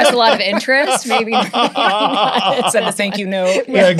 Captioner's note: laughter